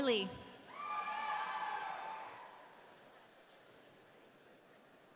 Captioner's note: audience cheering